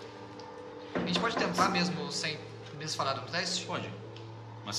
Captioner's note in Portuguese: batida na porta